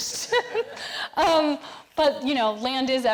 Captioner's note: all laughing